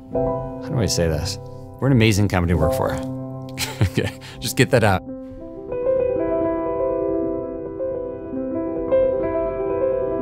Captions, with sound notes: how do I say this? We're an amazing company to work for. (laughs) Just get that out. (calm piano music)